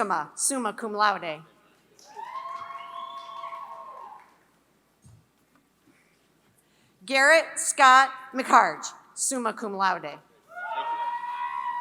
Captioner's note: applause